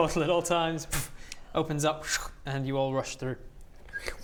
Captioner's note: schrk